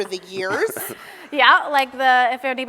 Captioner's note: laugh